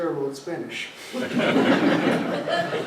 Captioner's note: laughter